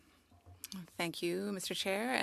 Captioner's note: speaking French